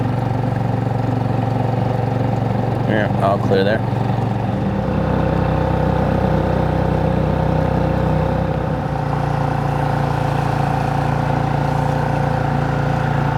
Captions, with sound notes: All clear there. (engine whirring)